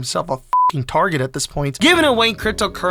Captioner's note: beep